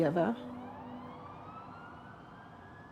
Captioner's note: ambulance siren